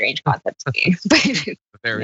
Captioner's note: laugh